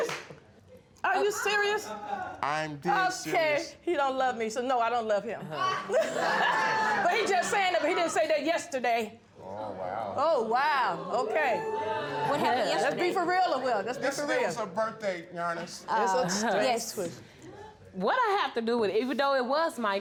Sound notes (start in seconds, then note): 5.6 all laughing